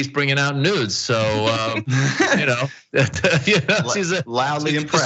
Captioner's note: laugh